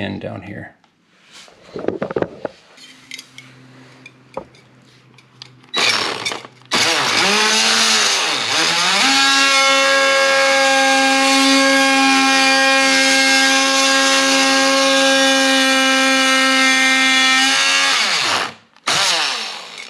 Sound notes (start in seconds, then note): 5.7 oscillating tool sound; 18.9 oscillating tool sound